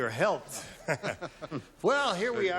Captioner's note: laughter